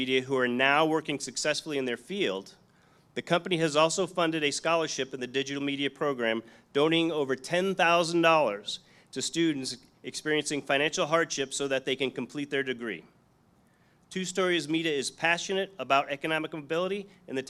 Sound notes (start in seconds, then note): none